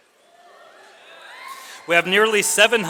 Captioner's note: audience cheers